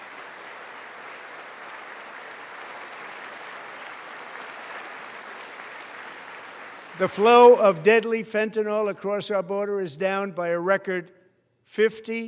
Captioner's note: applause